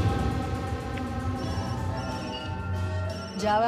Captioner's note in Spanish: Suena un celular